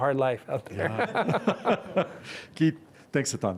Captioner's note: laughing